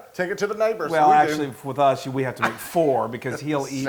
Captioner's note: laugh